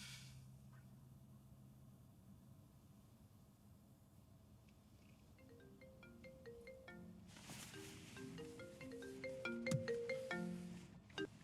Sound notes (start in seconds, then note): 0.1 Noah sighs; 5.6 cellphone ringing